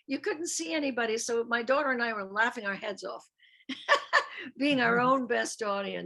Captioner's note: laughs